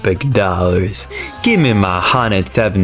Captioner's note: inhales Oxygen